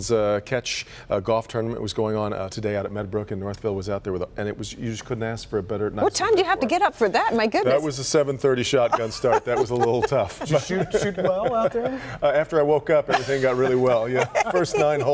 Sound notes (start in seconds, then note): 7.2 laughter